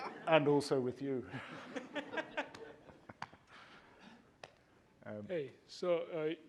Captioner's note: laughter